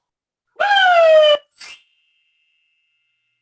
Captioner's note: screams